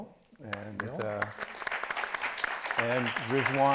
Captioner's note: audience applauds